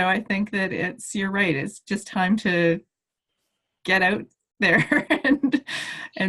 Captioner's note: laughs